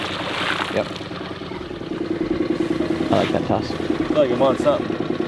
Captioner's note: splashing